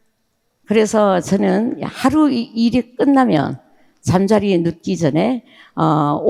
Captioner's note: speaking in foreign language